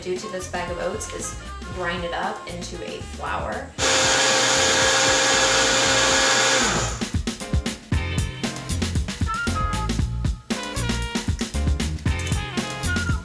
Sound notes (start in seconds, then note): 3.8 blender whirring; 8.1 upbeat music